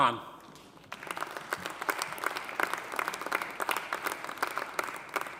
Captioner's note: audience applauding